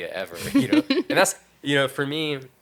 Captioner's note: laughing